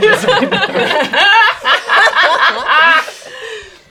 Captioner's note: laughing